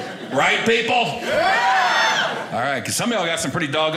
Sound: audience cheering

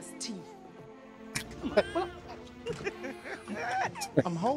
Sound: chuckling

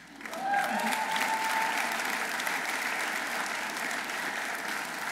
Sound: audience applauding

